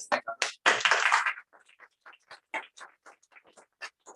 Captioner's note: applause